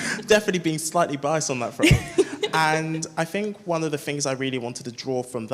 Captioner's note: laughs